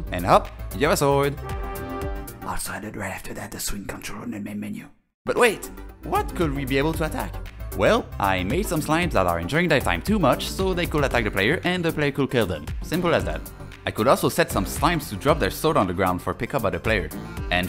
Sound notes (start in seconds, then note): 1.3 trumpets tada; 2.4 whispering